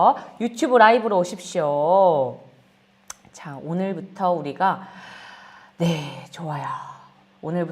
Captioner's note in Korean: 한숨